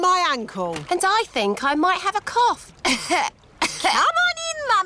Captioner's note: coughs